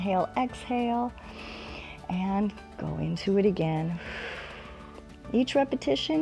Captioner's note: inhales; exhales